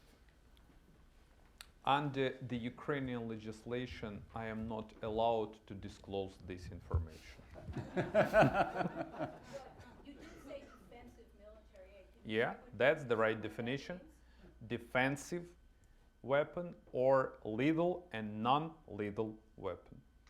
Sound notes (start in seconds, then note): 7.5 laughter